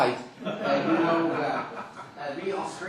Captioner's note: laughter